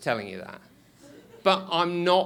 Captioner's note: scattered laughing